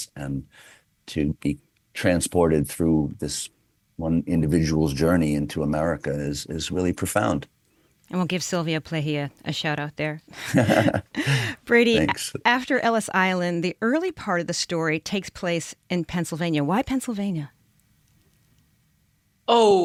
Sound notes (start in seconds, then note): 10.3 laughter